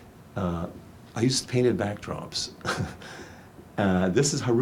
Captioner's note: chuckles